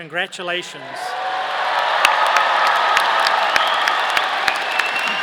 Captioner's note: audience cheering